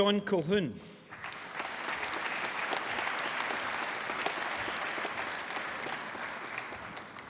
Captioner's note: applause